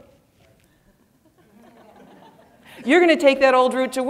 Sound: audience laughing

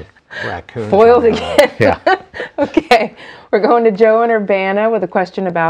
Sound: laughing

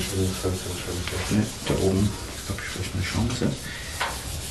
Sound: quietly

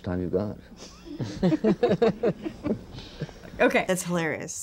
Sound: laughter

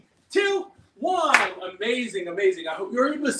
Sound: claps

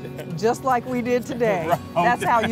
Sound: laughter

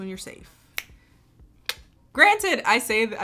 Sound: tongue clicking

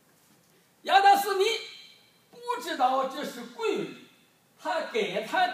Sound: speaking foreign language

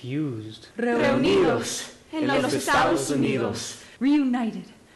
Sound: all speaking Spanish

